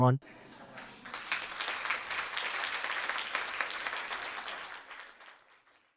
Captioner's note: audience applauding